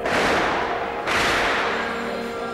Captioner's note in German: Schüsse